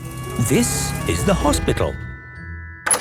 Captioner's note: siren sounding